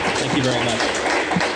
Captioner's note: applause